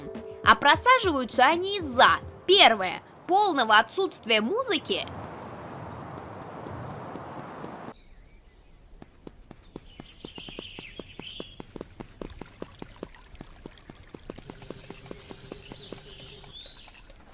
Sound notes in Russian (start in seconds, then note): 5.4 Звуки шагов и окружения; 17.0 Звуки скрипа по полу